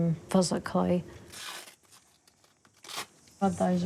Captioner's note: velcro rips